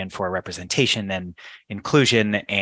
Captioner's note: none